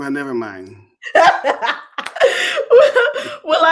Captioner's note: laughter